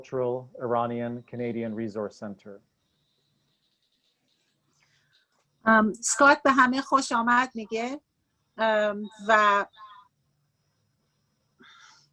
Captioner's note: speaking Farsi